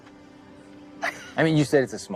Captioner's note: laughs